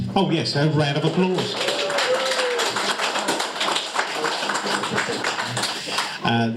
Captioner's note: audience applauds